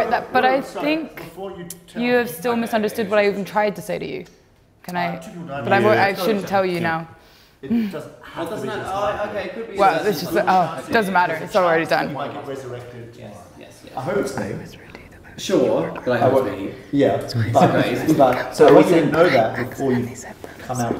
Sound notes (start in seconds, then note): 13.6 whispers inaudibly into Lewis' ear